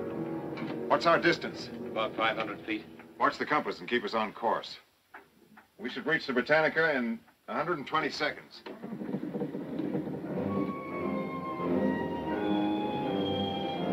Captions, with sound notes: What's our distance? - About 500 feet. - Watch the compass and keep us on course. We should reach The Britannica in 120 seconds. (wood creaking) (tense music)